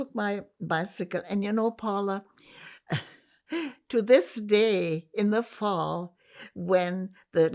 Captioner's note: laughing